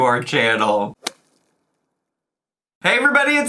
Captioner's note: logo thuds